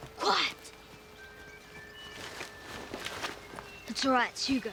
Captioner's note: rustling